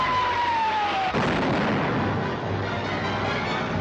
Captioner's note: rocket whistling